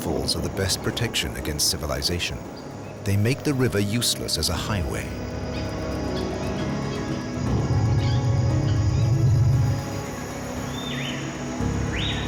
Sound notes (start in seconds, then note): 7.0 birds chirping